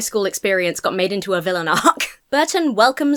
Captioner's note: chuckles